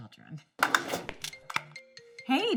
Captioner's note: cellphone rings